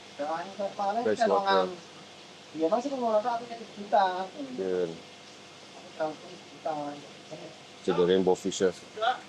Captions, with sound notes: Freshwater [BAHASA INDONESIA SPEECH] See the rainbow fishes.